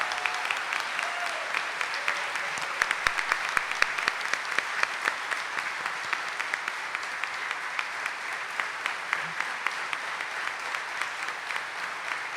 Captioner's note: audience cheering and applauding